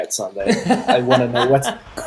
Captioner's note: laughter